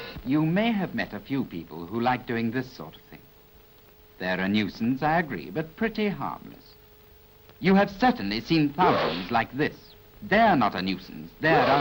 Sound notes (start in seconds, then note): 8.8 achoo